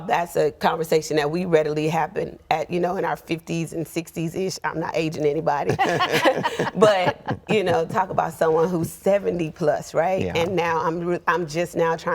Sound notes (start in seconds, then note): 5.6 all laughing